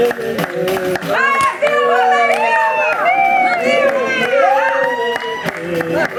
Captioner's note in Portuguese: gritos animados